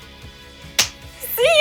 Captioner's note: clap